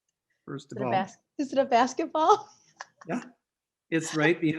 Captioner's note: laughs